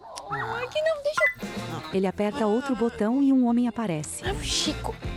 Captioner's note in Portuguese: Cantarolando